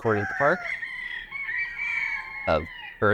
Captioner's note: rooster crowing; birds chirping